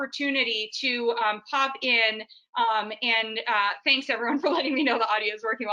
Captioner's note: laughs